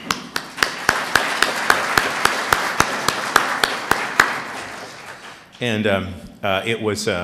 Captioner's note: applause